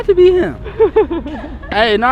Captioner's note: laughs